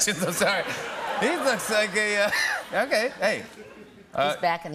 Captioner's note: laughter